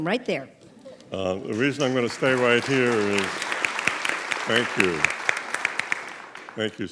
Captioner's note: clapping